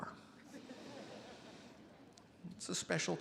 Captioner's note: attendees laughing